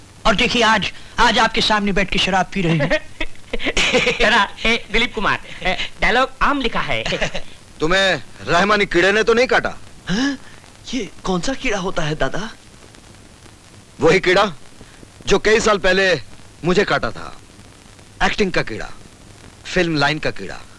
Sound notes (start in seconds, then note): 10.1 gasps